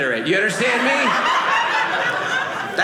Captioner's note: audience laughing